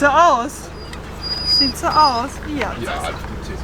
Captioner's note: Caesar is whimpering